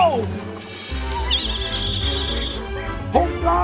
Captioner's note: Little Baa squeals in fun